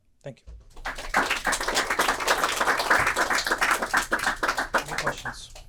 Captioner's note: applause